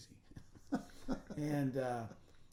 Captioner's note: laughing